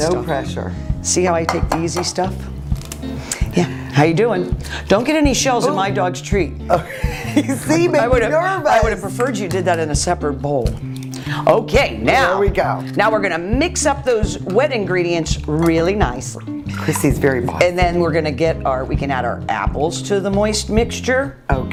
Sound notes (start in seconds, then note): 6.7 laughing